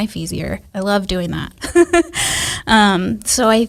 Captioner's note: laughs